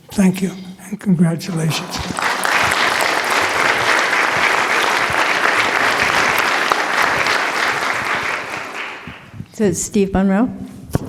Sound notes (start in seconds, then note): 1.5 applause